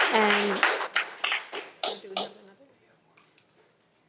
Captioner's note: audience applauding